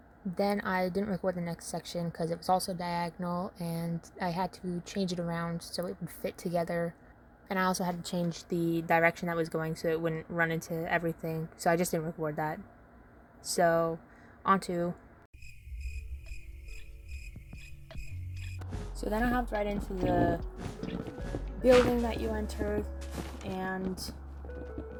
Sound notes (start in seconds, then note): 15.3 crickets chirping